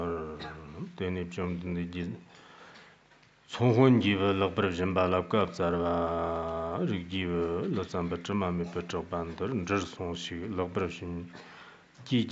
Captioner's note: giving oral transmission in Tibetan